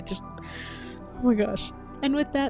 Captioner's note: inhale